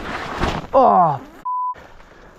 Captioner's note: branch thudding